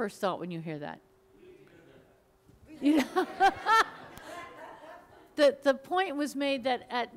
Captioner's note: mumbles and laughter